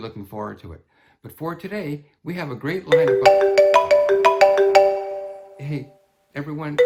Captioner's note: phone rings